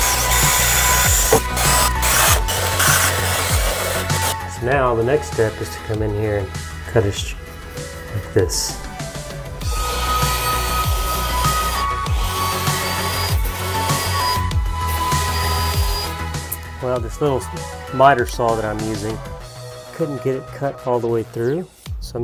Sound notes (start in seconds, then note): 0.1 upbeat music; 1.5 drill whirs; 10.0 upbeat music; 12.5 saw whirs